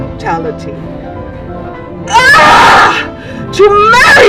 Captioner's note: screams